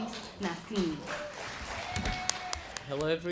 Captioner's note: applause